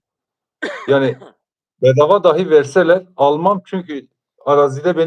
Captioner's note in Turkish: boğazını temizler